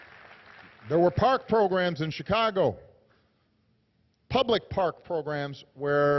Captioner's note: applause